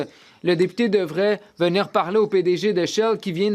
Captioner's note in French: voix de l'interprète